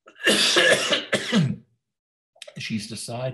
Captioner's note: coughs